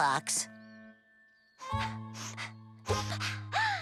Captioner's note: sniffing